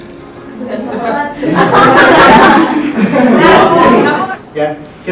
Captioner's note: students laughing